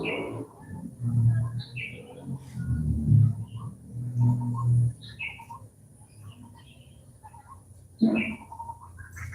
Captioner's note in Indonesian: Suara burung